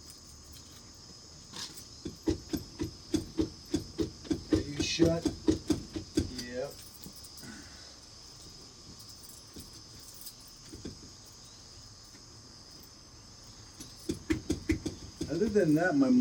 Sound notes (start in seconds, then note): none